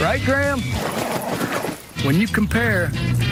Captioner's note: grrrrrr